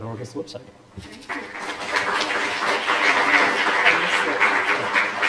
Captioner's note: applause